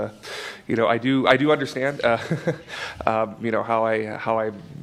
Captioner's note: laughs